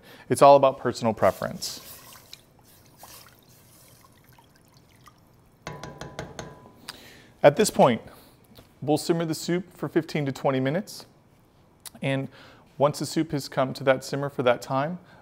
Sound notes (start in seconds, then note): 1.0 liquid stirring